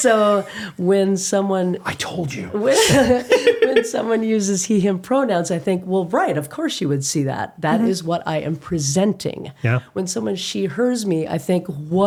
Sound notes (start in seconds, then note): 2.7 both laughing